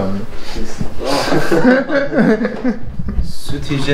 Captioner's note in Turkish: Gülüşmeler